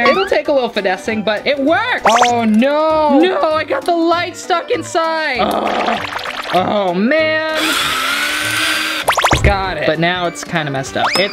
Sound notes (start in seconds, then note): 7.5 drill sounds